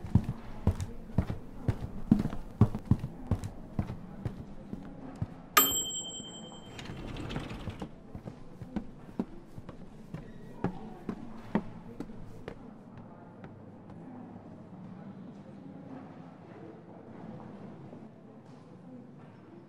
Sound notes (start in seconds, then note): 5.6 elevator bell dings; 8.0 walking